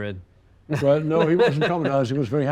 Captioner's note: chuckles